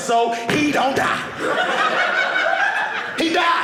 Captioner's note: audience laughing